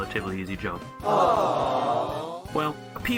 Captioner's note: awww